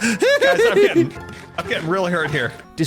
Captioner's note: giddy laughter